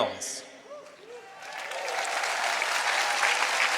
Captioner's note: applause